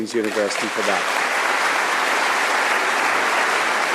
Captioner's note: applause